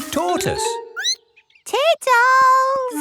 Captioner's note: squeaks